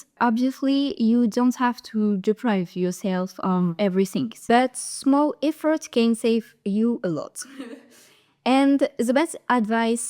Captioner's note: laughs